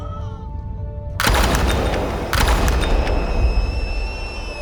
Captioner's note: gun firing